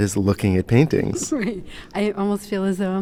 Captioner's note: chuckles